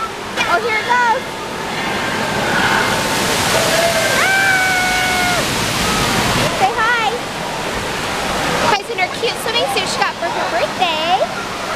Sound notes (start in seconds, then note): 1.9 water splashing